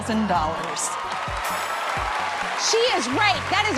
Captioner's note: cheers and applause